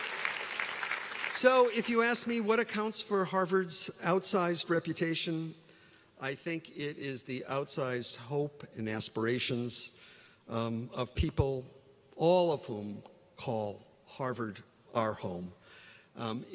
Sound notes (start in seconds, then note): 2.2 applause